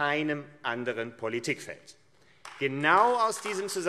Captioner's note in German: Beifall AfD